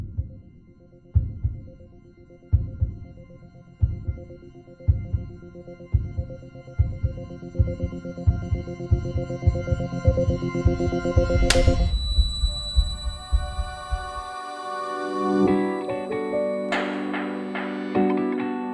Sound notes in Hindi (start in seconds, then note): 11.4 थप्पड़ की आवाज़; 15.5 मधुर संगीत बजता है